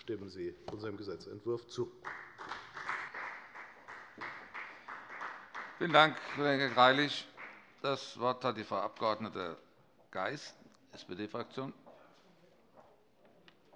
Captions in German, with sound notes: Stimmen Sie unserem Gesetzentwurf zu. [Beifall bei der FDP] Vielen Dank, Kollege Greilich. - Das Wort hat Frau Abg. Geis, SPD-Fraktion.